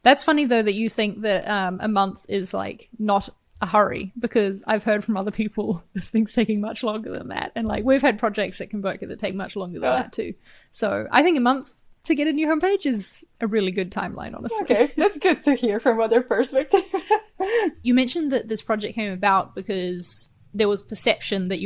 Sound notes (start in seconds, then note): 16.6 chuckles